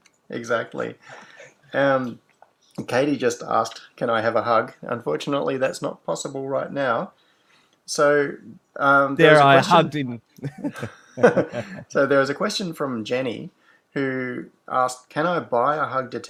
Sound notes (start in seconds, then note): 10.4 laughs